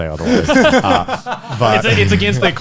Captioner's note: guys laughing